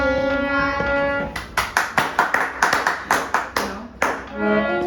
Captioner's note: parents clapping